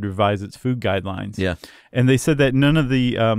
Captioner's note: voiceover